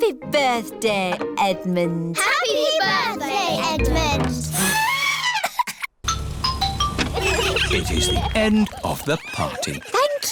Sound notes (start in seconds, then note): 5.2 trumpets; 6.0 horns honking